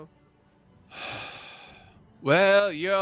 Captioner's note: sighs